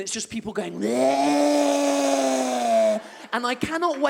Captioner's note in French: bruit de zombie